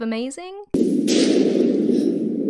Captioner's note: thunder strike